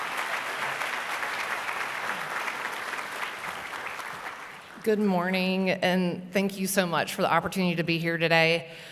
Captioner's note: applause